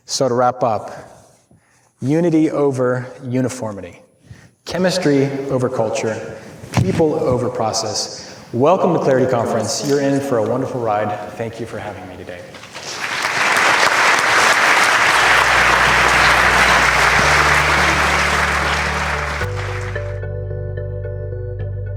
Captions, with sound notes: So to wrap up, unity over uniformity, chemistry over culture, people over process. Welcome to clarity conference, you're in for a wonderful ride. Thank you for having me today. (Audience clapping) (soft music)